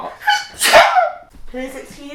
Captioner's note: sneezes